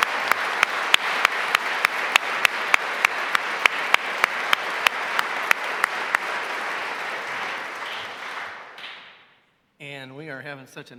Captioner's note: applause